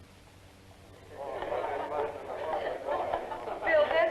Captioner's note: chattering